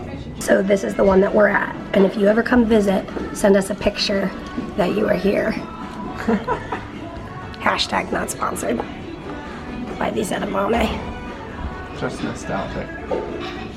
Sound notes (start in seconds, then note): 6.1 chuckles